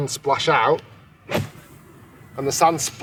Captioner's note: gold club whooshes